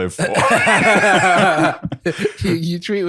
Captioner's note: laughter